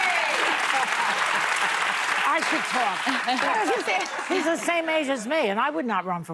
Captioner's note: laughter; applause